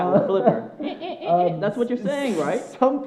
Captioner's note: worker imitates dolphin screeching